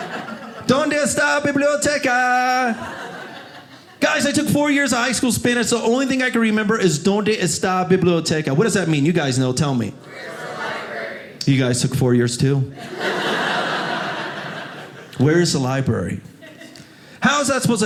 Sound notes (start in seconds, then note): 9.7 crowd; 12.8 audience laughing